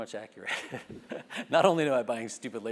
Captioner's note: laugh